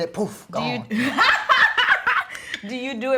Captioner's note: laughs